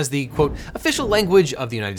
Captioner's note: air whooshing